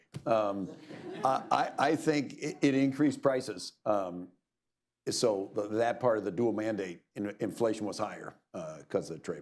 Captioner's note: laughter